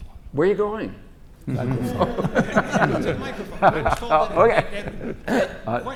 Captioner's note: laugh